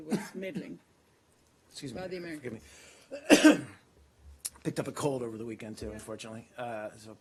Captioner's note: coughs